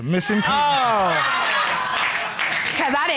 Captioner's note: audience laughing